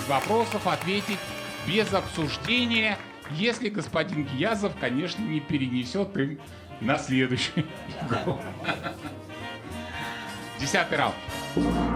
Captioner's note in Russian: смех